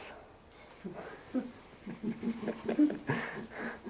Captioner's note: laugh